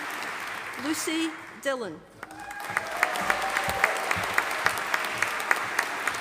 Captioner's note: audience applauding